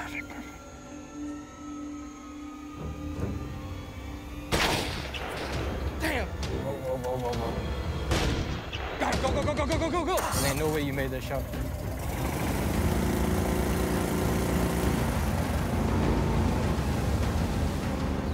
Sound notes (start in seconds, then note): 4.5 gunshot; 8.1 gunshot; 11.8 suspenseful music